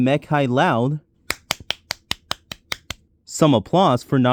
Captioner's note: applause